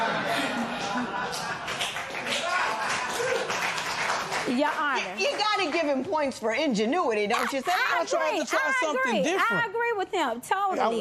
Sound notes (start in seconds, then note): 0.0 spectators laugh; 1.3 light applause